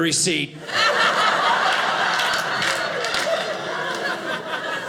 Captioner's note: audience laughing